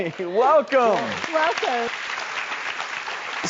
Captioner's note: audience applauding